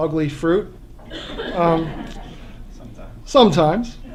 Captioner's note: laughter